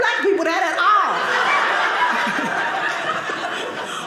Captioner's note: audience laughing